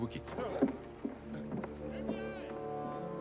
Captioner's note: brabantio shouting